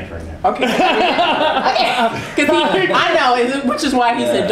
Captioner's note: laughter